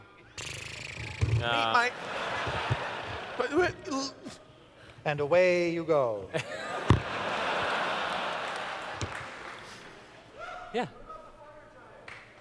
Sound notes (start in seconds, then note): 0.4 engine sputtering away sounds; 3.2 stuttering; 6.3 laughter